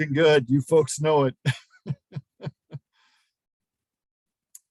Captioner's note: laughing